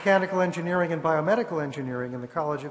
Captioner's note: applause